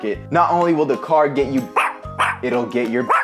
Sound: dog barks

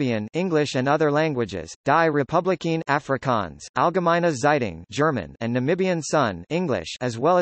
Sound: German

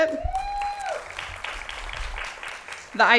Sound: applause

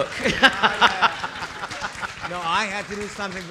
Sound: audience laughing

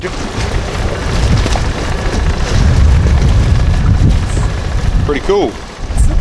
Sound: water splashing; motor humming

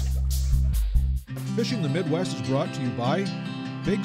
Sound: none

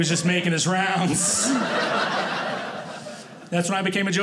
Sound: audience laughing

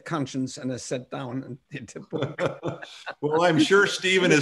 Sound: laughter

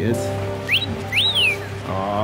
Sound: toy whistles

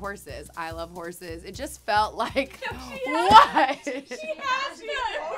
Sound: laughing

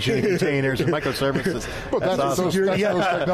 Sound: laughing

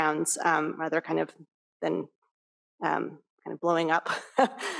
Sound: laughs

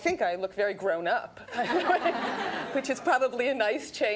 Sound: audience laughs

